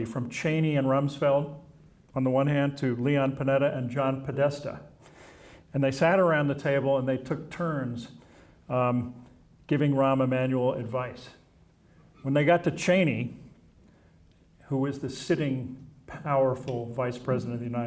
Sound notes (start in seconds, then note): none